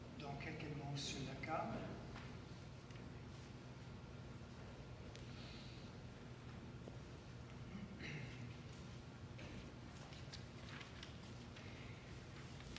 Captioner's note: speaking French